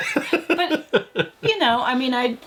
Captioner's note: laughing